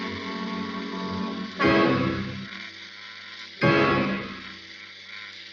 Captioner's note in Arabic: تُصدر الدمية صوتًا مُرعبًا